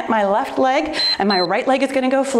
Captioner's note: timer beeps